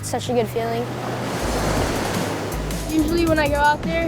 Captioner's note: waves crashing